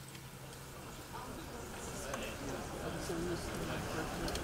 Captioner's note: audience chattering